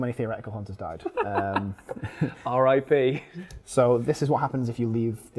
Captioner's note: laughs